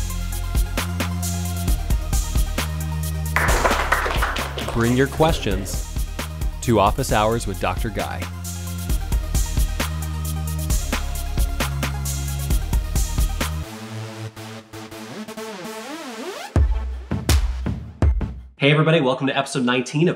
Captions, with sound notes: (upbeat music) (applause) Bring your questions to Office Hours with Dr. Guy. (upbeat electronic music) Hey everybody, welcome to Episode 19